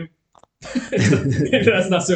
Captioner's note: laughing